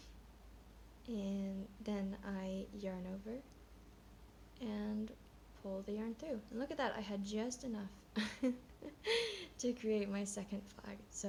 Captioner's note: laughs